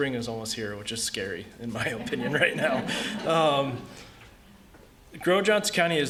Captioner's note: laughter